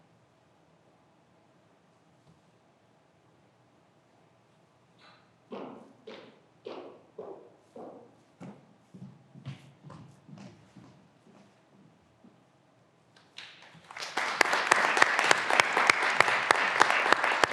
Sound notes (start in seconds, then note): 13.4 graduands applauding